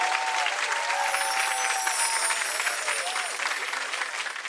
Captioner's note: audience applauding and cheering; sparkling sound